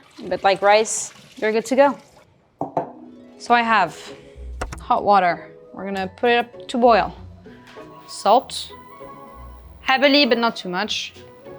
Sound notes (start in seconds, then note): 2.7 bowl thuds